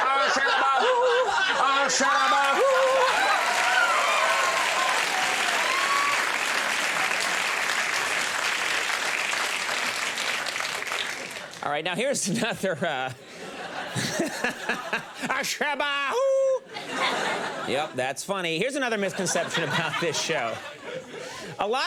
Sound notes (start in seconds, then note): 0.0 crowd laughs; 2.9 crowd cheers; 13.3 laughs